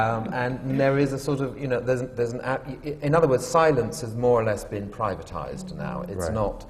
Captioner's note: laughter